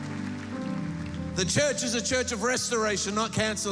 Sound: applause

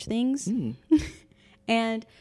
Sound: laughing

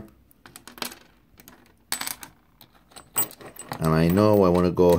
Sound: bolts clanging

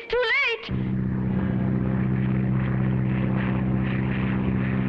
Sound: plane droning

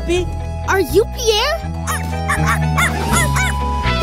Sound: barking

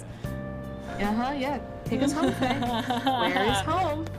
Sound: sarcastically

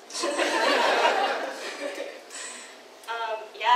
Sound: audience laughs

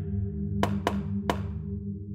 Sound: popping sounds

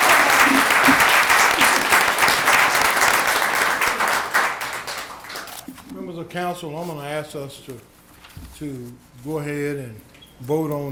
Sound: applause

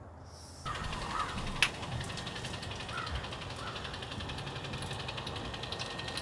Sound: electric caulk gun whirs

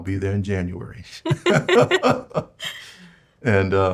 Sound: both laughing

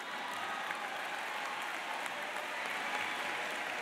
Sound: audience laughs and applauds

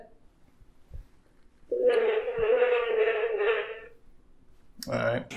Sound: fart sound

